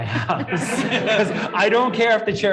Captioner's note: everyone laughing